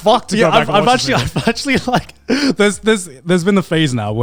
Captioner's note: laughs